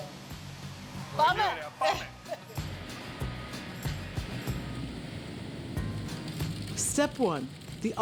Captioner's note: speaking in greek